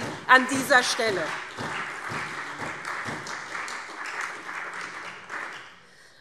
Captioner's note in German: Beifall SPD und Freie Demokraten